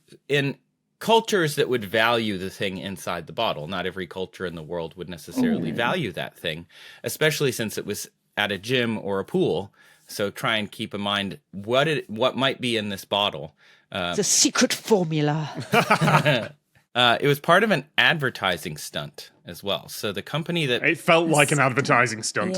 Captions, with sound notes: in cultures that would value the thing inside the bottle. Not every culture in the world would necessarily value that thing. Especially since it was at a gym or a pool. So try and keep in mind, what might be in this bottle? The secret formula! (laughs) (chuckles) It was part of an advertising stunt as well. So the company that— It felt like an advertising stunt.